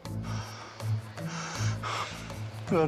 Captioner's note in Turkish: Nefes sesi